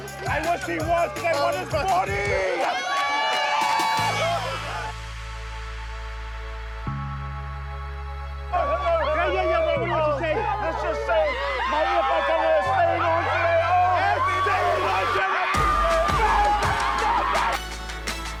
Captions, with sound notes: - I wish he was, cos I want his body! (CHEERING) - Chee-hoo! (ATMOSPHERIC MUSIC) - Hello, hello! Um... - Yeah, what do want have to say? - Let's just say my ie faitaga is staying on today! Oh, happy day! Happy days! - It's staying on today! No suspenders!